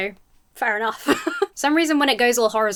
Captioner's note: laughs